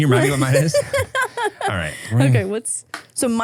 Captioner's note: laughs